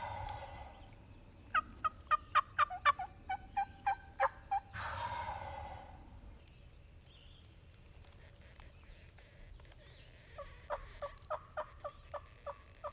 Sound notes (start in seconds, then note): 0.0 birds squawking; 0.3 birds squawking continues; 1.5 turkeys gobbling